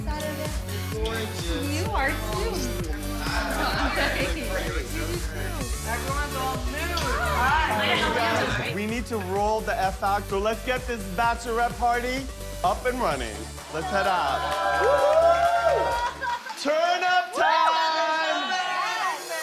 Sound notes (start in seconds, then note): 13.6 cheers and applause